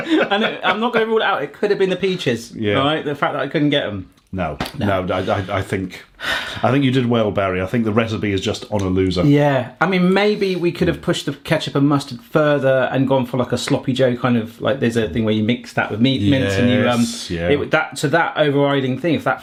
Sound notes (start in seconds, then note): 5.1 sighing